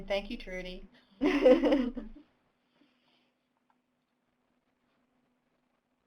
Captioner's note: laughing